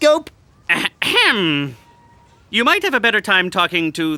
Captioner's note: throat clearing